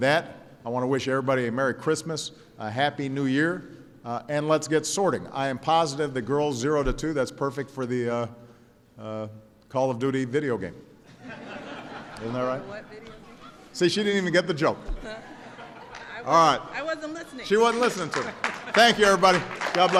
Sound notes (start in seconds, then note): 11.0 laughter; 18.0 laughter